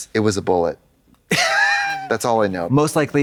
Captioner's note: Katya puffs